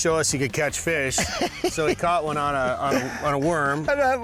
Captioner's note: laughs